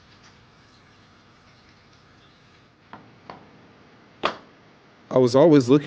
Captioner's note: footsteps